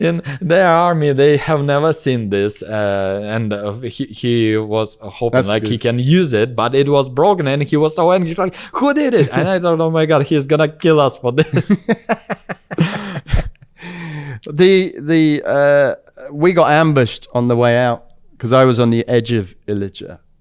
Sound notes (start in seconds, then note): 9.0 laughs; 11.4 laughs